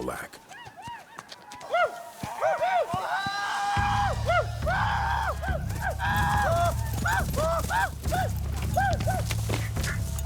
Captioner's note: war cries